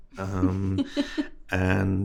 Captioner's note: host laughing